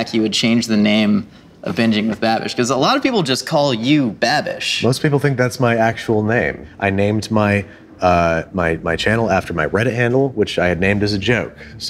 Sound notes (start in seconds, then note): none